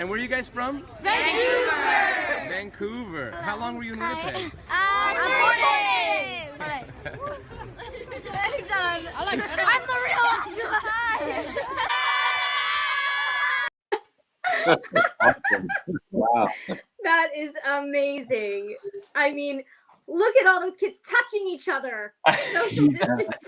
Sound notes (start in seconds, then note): 9.1 more screaming; 14.4 laughter